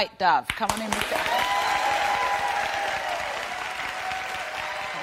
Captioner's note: audience cheering